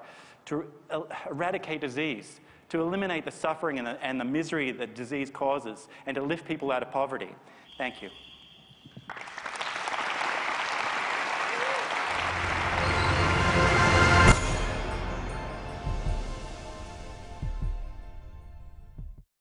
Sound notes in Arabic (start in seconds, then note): 9.0 تصفيق